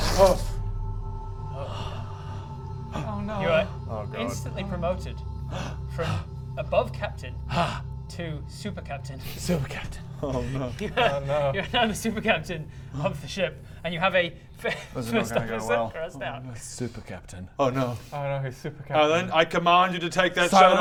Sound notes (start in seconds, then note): 1.5 corrupted sigh